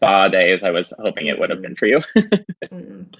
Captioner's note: laughs